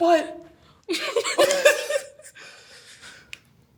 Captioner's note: both laugh